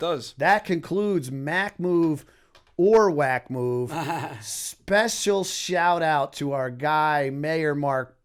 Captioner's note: laughter